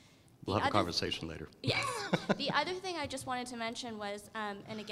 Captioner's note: laugh